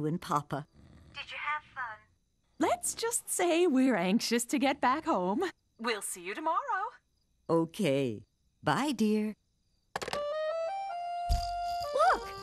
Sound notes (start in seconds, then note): none